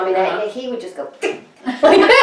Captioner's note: laughter